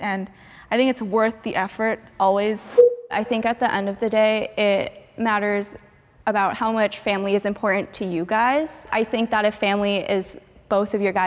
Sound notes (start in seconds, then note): 2.7 transition bleeps; 2.7 transition whooshes